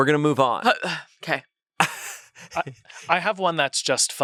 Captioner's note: laughs